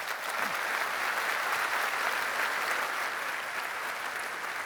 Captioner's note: applause